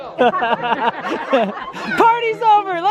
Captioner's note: laughing